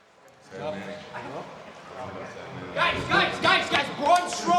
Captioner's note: people chattering indistinctly